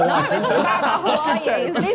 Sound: Sidemen laughing

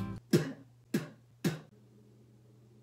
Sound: spit

